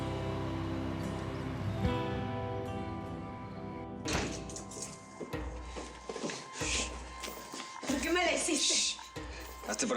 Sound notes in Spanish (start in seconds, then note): 4.0 ruido al entrar